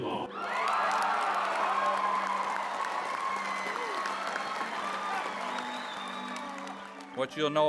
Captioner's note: loud Cheering